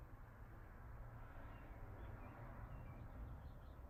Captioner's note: wind